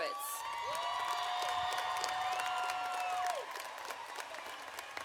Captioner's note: audience applauding